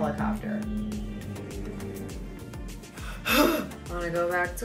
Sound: helicopter whirring; sighing

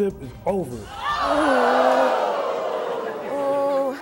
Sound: groans

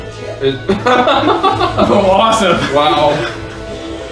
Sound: laughs

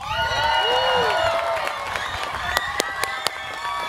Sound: students cheering

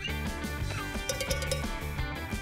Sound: ringing

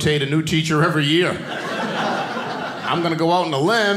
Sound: audience laughing

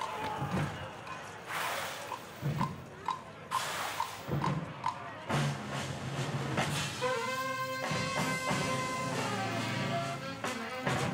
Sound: cheers and applause

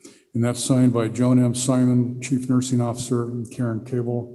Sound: none

